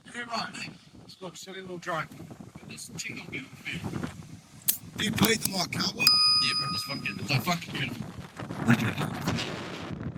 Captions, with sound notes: You're right, mate. It's got a silly little dragon. It's got this tickle here. Do you play with my cow? Yeah, bro, this one's getting a fucking bit. Thank you. [wind]